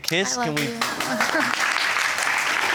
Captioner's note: audience applauding